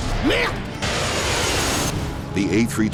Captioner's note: pilot yells